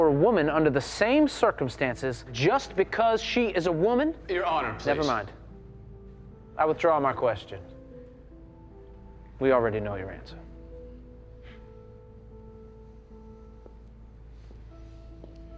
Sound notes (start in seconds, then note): 11.1 scoffs